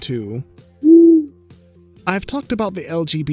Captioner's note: owl hoots